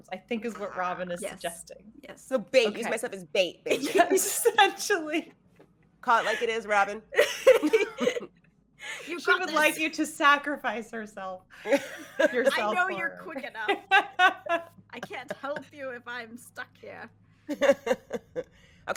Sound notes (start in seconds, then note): 5.4 laughing; 7.1 laughing; 11.6 laughing